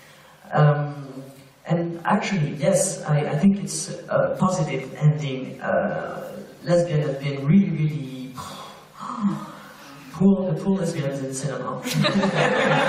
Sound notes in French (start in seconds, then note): 8.4 soupir